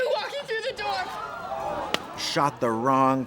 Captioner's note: people gasping